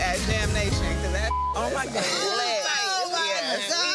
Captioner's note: beep